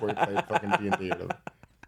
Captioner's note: laughing